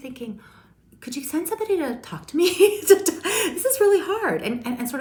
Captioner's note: laughs